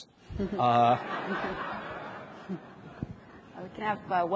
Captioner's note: audience laughs